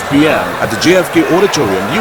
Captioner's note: wild applause and cheering for 22 seconds